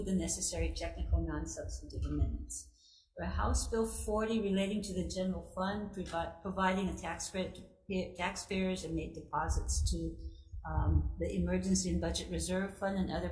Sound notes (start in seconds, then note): none